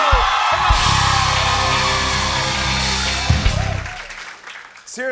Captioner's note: cheers and applause